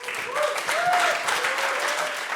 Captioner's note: audience applauds